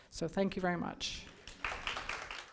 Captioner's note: clapping